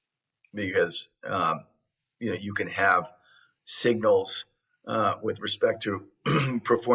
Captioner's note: cough